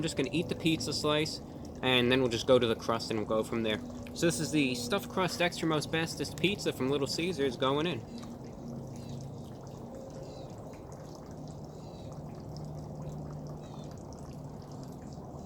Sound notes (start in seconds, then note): 10.0 chewing the pizza slice; 13.1 more chewing